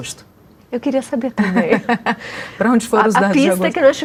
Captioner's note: laughter